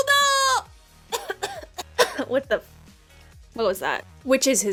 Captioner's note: high pitched; coughs